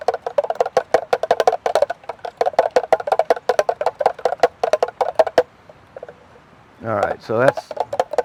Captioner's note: spoon clattering